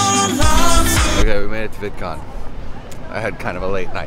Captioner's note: super excited voice